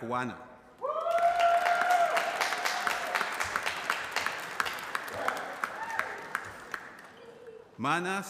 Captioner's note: applause